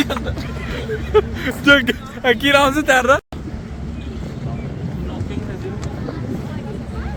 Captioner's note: laughs